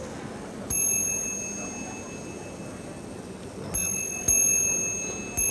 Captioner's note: watch chimes